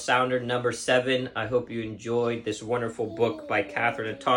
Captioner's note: child burbling